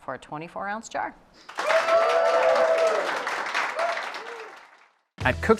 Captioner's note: cheers and applause